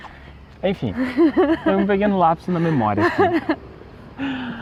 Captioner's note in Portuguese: risos